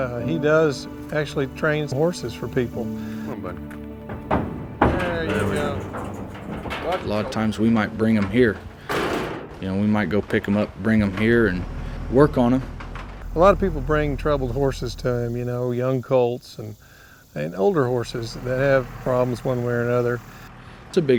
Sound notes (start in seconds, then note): 4.4 hooves thud